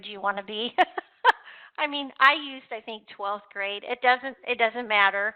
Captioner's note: laughs